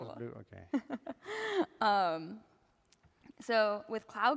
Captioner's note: laughter